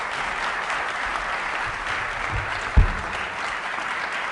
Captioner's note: applause